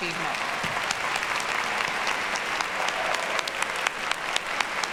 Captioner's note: audience applauds